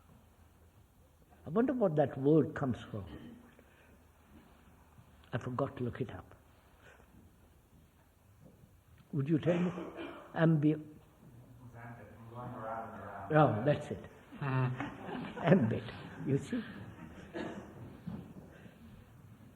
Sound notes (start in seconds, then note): 14.4 laughter